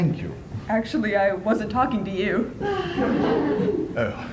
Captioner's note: laughter